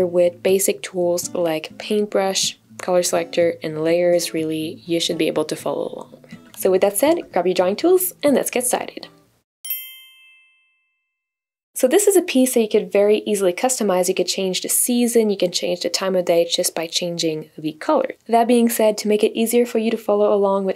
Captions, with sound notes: with basic tools like paintbrush, color selector, and layers, really you should be able to follow along. So with that said, grab your drawing tools and let's get started. (bell chiming) So this is a piece that you could very easily customize. You could change the season, you can change the time of day just by changing the color. That being said, to make it easier for you to follow along